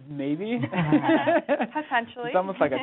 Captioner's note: laughs